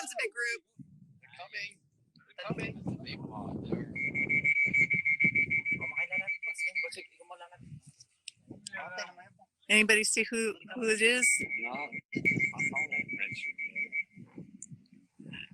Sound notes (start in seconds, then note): 3.9 whistle hoots; 12.6 whistle hoots